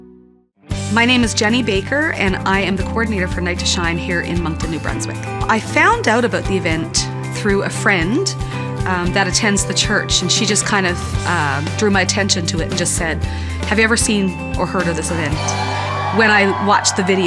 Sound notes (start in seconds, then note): 15.3 cheering